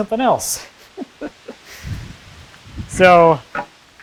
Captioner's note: laughs